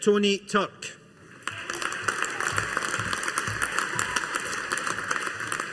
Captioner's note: audience applauding